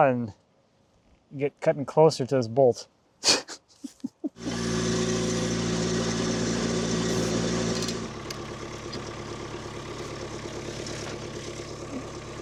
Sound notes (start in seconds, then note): 3.2 chuckling; 4.3 engine humming